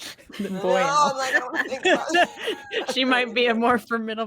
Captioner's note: indistinct chatter and laughing